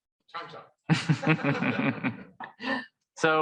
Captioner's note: laughing